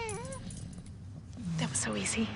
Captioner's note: mom, whispering